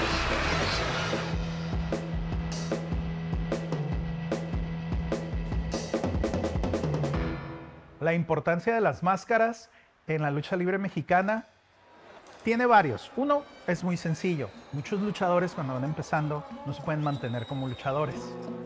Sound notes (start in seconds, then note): 0.0 cheering; 7.9 Rey Misterio speaking Spanish; 7.9 speaking Spanish